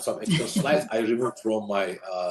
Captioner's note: chuckles